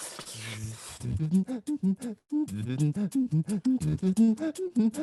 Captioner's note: beatboxing